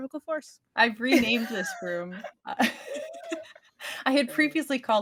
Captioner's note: laughing